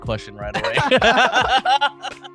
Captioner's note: laughing